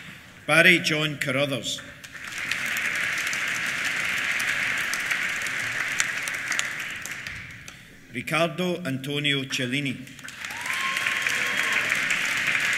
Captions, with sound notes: Barry John Carruthers. (APPLAUSE) Ricardo Antonio Celini. (CHEERS) (APPLAUSE)